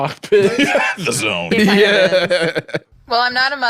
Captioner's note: laughing